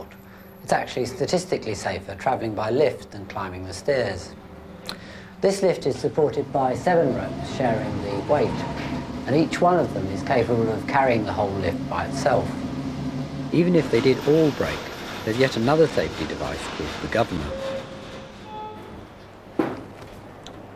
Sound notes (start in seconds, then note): 17.8 motor